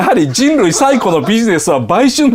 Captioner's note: laughs